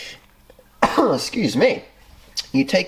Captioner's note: coughs